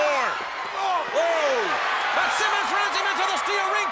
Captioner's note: audience cheers